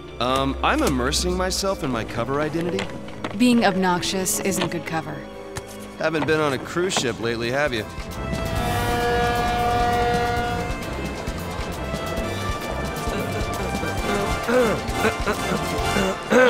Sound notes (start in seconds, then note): 8.5 ship horn sounding, music playing